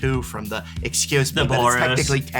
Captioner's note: mocking voice